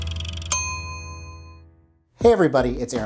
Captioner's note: ding